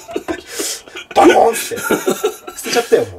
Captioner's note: laughter